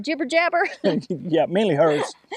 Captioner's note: both laughing